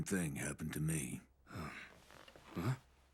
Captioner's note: groans